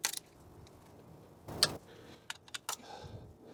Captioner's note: click